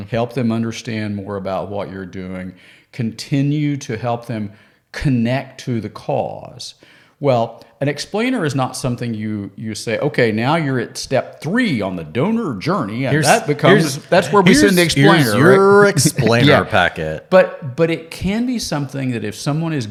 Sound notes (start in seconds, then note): 17.2 laughs